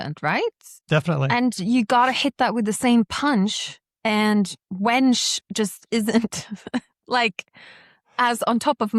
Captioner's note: chuckles